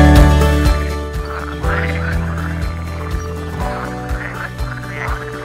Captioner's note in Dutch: kikker gekwaak